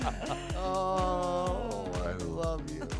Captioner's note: laughter